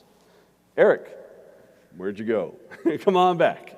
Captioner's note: laughs